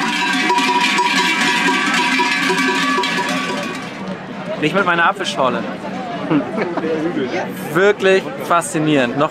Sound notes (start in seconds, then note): 6.2 laughter